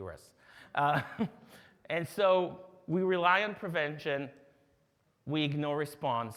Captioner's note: chuckles